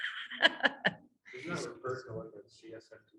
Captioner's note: laughing